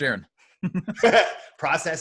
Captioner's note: laughing